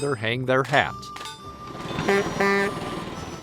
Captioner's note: honk honk